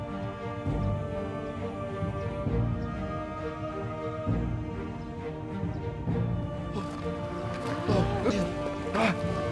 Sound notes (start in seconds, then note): 7.5 all gasp frightened